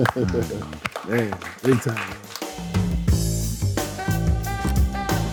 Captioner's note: staff claps; groovy jazz music